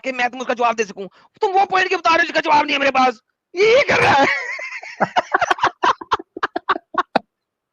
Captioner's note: laughter